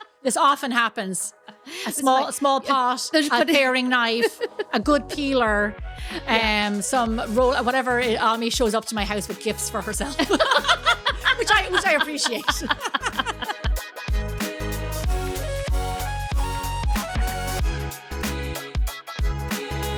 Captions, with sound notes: This often happens. A small pot, a paring knife, a good peeler, some roll, whatever, Ami shows up to my house with gifts for herself. (laughing) Which I appreciate. (laughing) (upbeat music) (upbeat music)